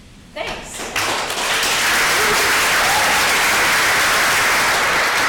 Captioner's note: audience clapping